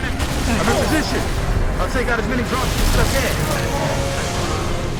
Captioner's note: radio